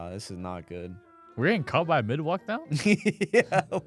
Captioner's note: laughs